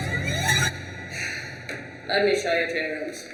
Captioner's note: eerie music; Wilhelmina sighs